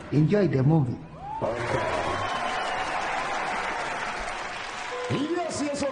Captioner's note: audience cheers